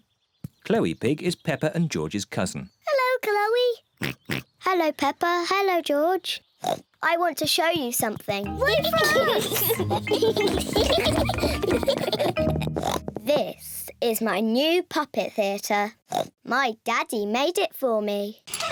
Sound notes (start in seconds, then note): 4.0 oinks; 6.6 oinks; 8.6 giggles; 12.5 oinks